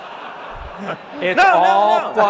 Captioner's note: audience laughs